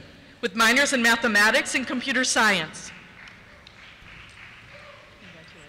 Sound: applause

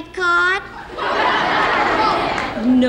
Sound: audience laughs

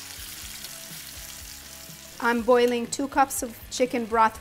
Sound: pan sizzling

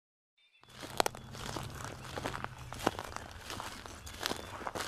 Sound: footsteps crunching

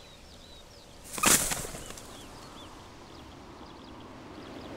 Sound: wings flap; birds twitter

